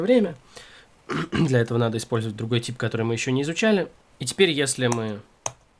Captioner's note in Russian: откашливается